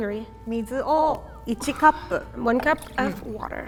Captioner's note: speaking in Japanese